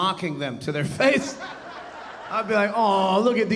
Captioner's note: audience laughing